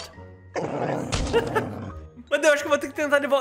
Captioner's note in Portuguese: risos